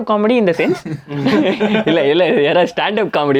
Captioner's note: group laughs